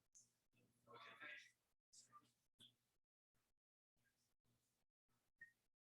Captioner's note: people chattering indistinctly